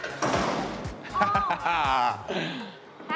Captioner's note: machine clacks; laughs